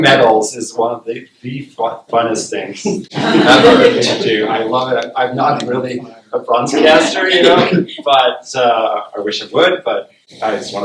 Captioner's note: laughter